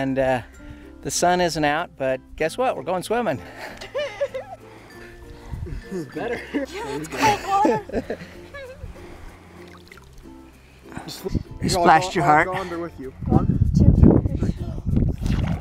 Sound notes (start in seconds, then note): 3.6 laughs